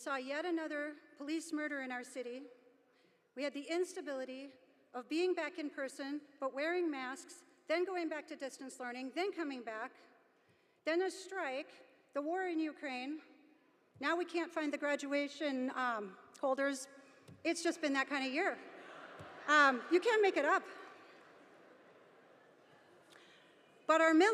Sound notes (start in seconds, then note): 18.6 audience laughing